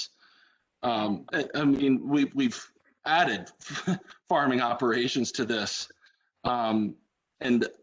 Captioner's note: laughter